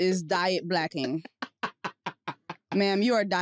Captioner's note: laughs